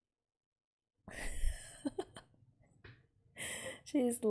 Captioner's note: laughs